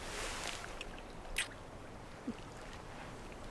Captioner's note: kissing